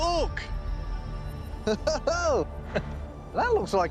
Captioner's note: laughing